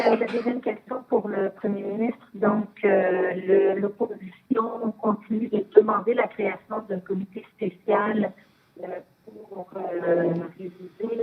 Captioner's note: speaking French